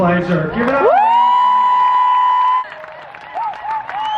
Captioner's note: crowd cheering